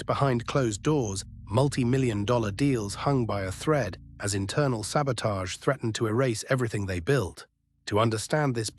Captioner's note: SFX: ticking clock